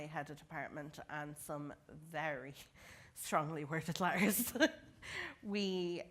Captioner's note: laughter